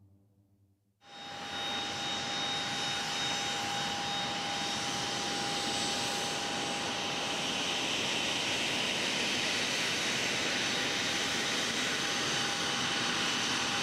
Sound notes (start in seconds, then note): 1.5 plane engine roaring